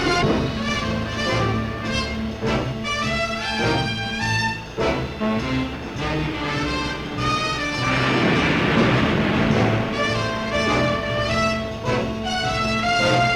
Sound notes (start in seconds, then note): 0.0 waves roaring; 0.3 jazzy orchestral music; 7.8 waves roaring